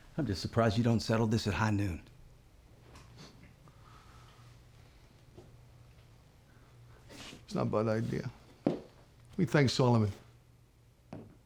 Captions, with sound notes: I'M JUST SURPRISED YOU DON'T SETTLE THIS AT HIGH NOON. [SCOFFS] [SCOTTISH ACCENT] IT'S NOT A BAD IDEA. WHAT DO YOU THINK, SOLOMON?